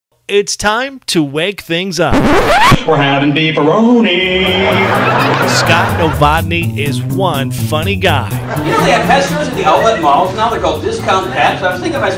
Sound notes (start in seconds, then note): 2.0 record scratch; 4.3 audience laughs